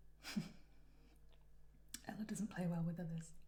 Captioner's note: Ella chuckles softly